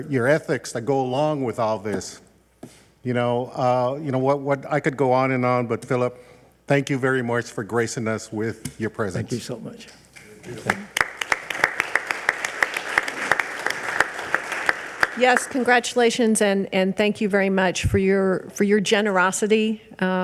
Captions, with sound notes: your ethics that go along with all this. You know I could go on and on, but Philip, thank you very much for gracing us with your presence. - Thank you so much. (audience applauding) - Yes, congratulations. And thank you very much for your generosity,